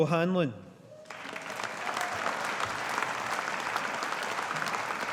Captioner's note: audience applauding